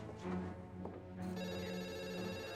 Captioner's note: phone rings